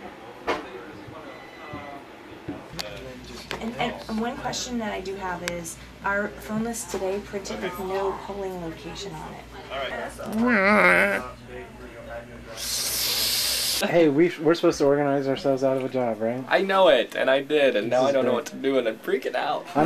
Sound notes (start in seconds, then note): 10.3 making space cat noises